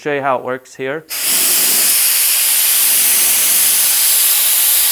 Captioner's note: spraying sound